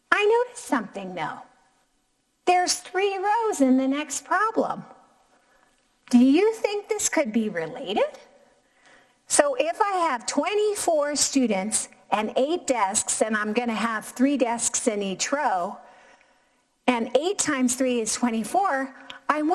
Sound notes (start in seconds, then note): none